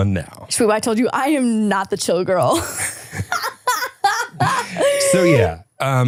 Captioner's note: laughs